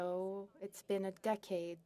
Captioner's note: speaking French